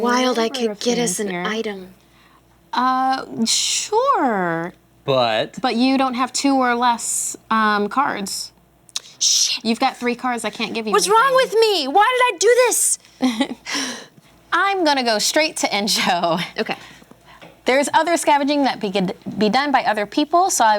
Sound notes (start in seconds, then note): 13.2 chuckles